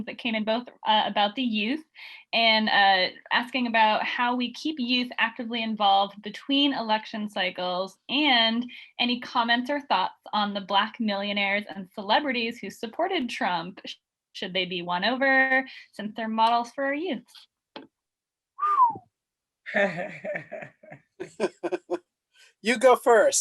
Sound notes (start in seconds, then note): 18.6 whistle; 19.7 laughing